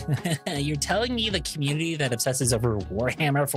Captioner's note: laughing